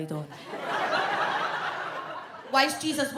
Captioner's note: audience laughs